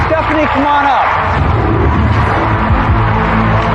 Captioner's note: cheering and applause